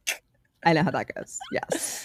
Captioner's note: laughs